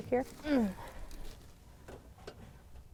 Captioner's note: grunts